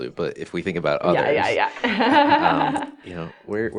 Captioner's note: laughs